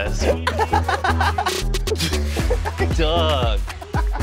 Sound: man laughs

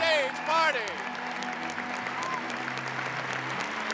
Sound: applause

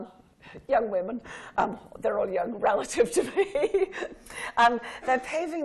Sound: laughing

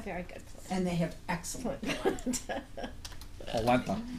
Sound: voiceover

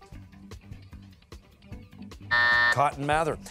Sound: timer

